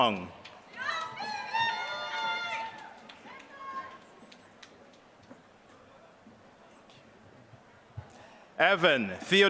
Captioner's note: applause